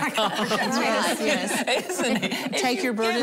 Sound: laughing

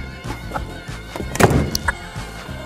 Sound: door slam #2

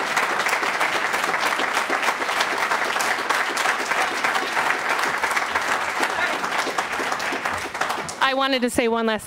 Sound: applause

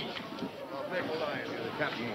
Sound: sailors chattering

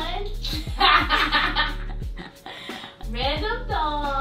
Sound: laughter

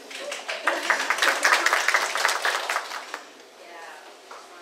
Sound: audience applauds

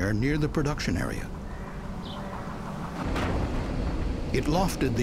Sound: sound of explosion

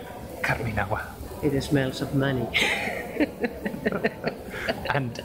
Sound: both laugh

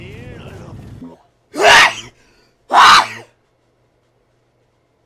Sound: sneezing loudly

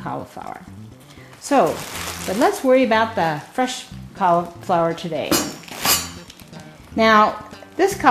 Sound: metal ringing

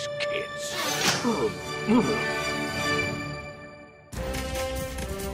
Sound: groaning

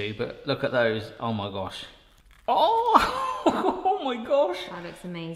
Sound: laughs

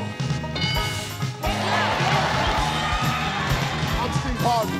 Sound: crowd cheering

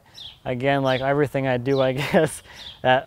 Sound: laughs

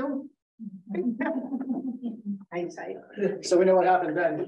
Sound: giggling

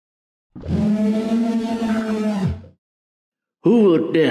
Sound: howl

